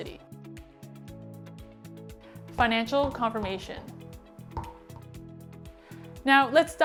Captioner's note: bouncing